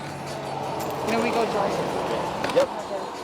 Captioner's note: car whooshes; crew chattering